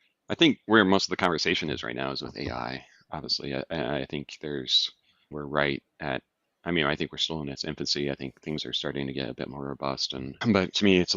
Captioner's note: laughs